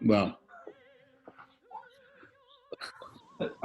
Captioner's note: quiet giggling